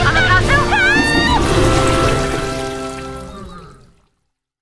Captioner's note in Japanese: 水洗トイレの音